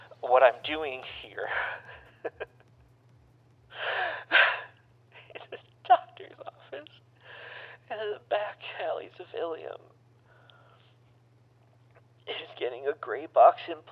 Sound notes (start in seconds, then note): 3.7 sobbing